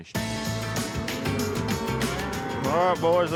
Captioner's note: cows moo